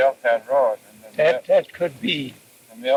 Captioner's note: cassette audio